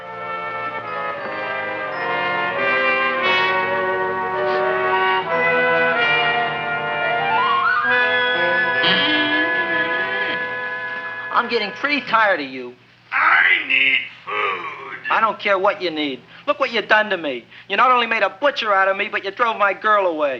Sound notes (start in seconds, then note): 0.2 anticipatory music; 8.0 Audrey Jr. creaking